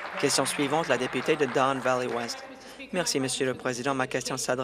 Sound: applause

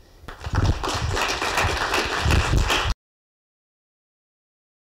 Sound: applause

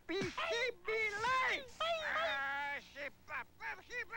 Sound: seal crying; man complaining loudly

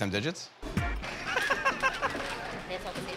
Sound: laughter

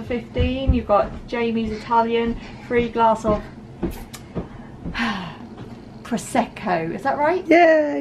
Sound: sighs

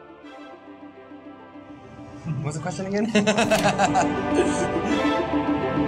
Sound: laughs

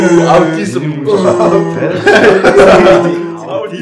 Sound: laughter

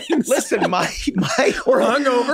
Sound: group laughs

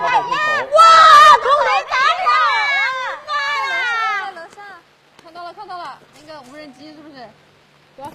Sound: screaming!

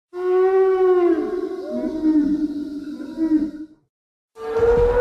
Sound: dino call

